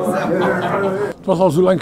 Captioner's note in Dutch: lachen